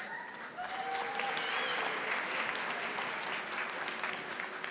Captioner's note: audience applauding